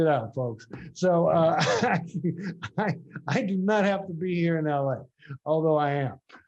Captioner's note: laughs